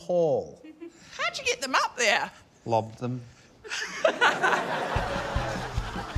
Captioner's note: laughs